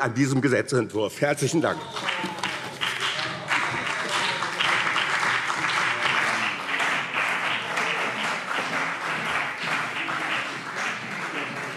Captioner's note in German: Beifall BÜNDNIS 90/DIE GRÜNEN und CDU